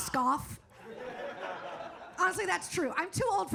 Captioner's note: audience laughs